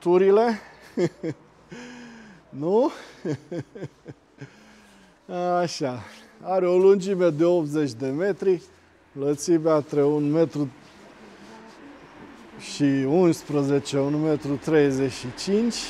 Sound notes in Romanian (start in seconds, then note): 2.9 Râsete